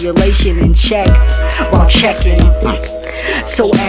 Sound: mmm

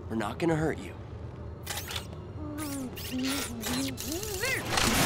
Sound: glitching

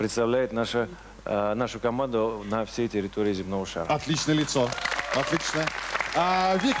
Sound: applause

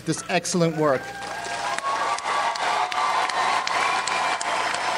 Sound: audience applauds

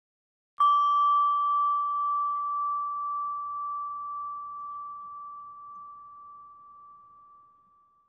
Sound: chime rings

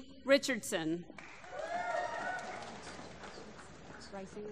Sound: applause

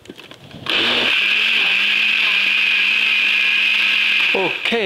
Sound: blender running

